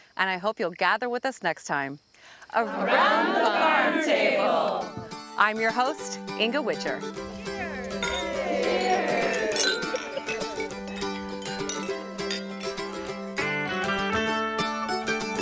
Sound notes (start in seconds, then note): 7.4 glasses clinking; 12.6 upbeat folk music